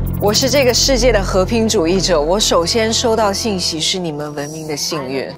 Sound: speaking in foreign language

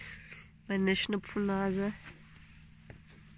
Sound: boat engine noise in the background

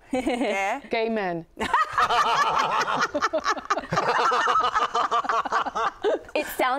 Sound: laughter

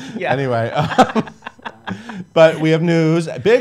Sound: laughing

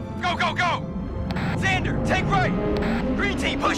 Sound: over radio

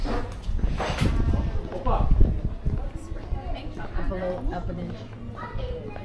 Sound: people chattering

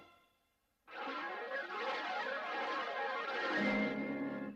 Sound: swirling sounds resuming

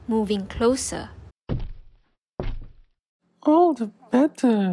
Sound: footsteps

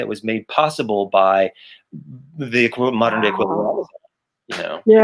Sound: mic cuts out

